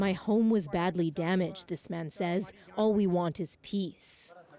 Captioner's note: speaking alternate language